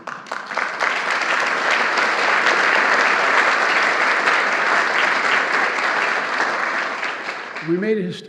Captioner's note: applause